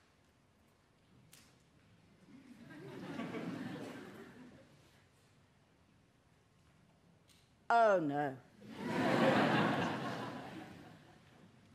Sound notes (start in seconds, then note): 2.6 audience laughter; 8.7 audience laughter